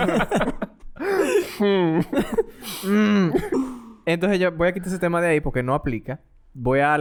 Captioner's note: laughs